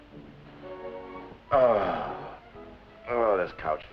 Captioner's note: sighs